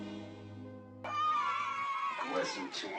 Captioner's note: kids playing in background